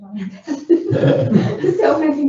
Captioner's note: laughing